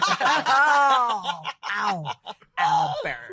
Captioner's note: group laughing